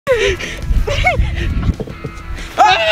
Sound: yelling

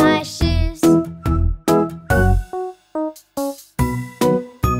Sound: whistling

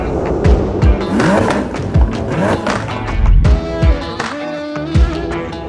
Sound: car engine revving

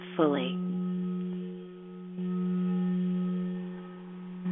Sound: vibrating tone

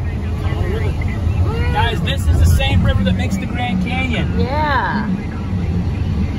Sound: National Park radio chatter

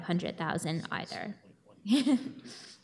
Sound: chuckles

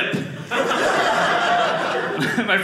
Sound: audience laughing

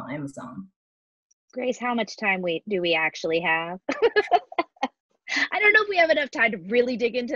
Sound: laughing

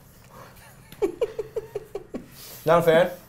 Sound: laughing

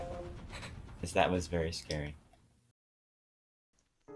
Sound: shudder

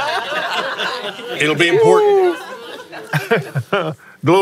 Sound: laughs

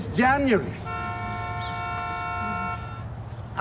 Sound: cars beeping

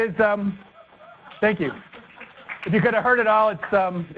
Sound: attendees laugh and applaud

